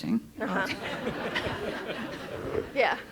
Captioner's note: all laughing